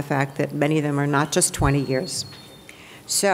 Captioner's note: none